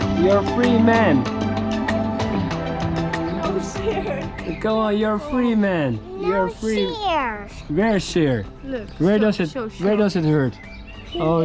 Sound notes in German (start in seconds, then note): 3.4 murmelt; 8.1 spricht Fremdsprache